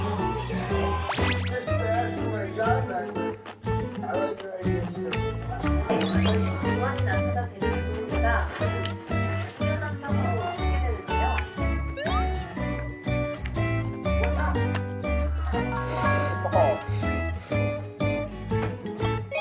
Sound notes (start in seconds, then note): 5.7 Hanya ada suara TV dan mengunyah dalam kamar